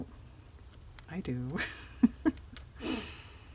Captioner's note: laughs